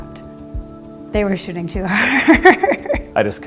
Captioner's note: chuckling